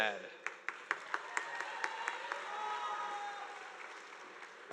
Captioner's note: audience applauding